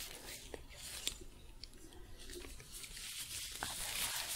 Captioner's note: glove sounds